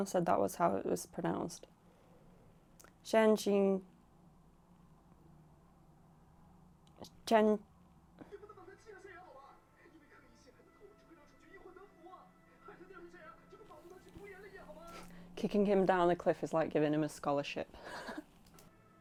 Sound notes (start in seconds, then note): 17.8 wheeze laugh